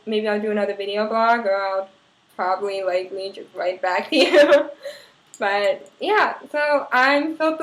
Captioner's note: laugh